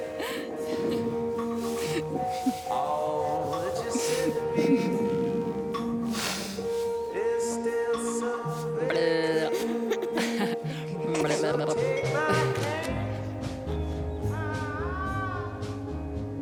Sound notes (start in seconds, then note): 0.0 laughing; 9.0 Alex babbling, both laughing